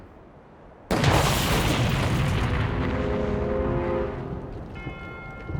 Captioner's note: explosion booming; suspenseful music; ominous music